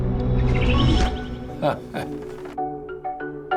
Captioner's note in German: verspielte Musik; kichert